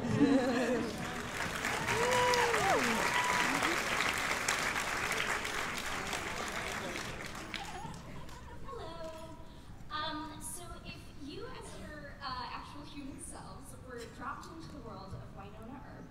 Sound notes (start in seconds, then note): 0.0 laughter; 0.6 applause